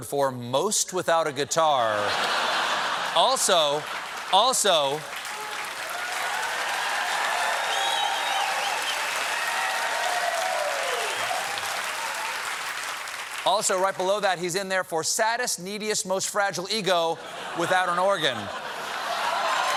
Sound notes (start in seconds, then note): 1.9 laughter